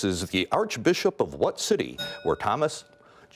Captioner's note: bell rings